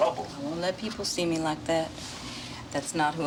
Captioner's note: none